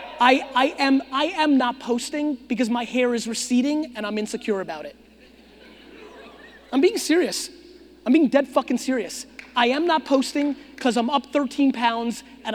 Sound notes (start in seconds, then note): 5.2 audience chuckling